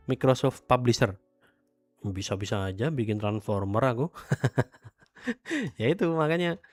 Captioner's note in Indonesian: tertawa